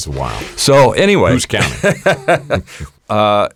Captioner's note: laughs